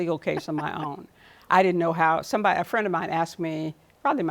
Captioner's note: laughs